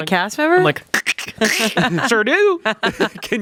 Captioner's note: imitates cracking